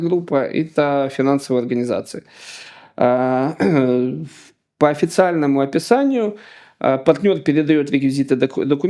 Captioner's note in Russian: откашливается